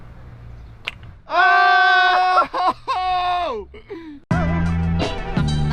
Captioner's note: men cheering; hip hop music